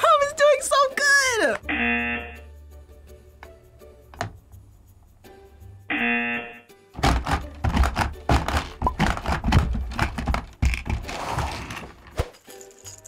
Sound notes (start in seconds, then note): 1.7 buzzer rings; 4.3 hippo clicks; 5.9 buzzer rings; 7.2 hippos clicking